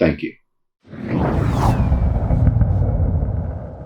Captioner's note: whoosh